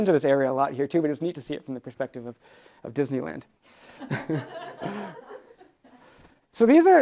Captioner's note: audience laughs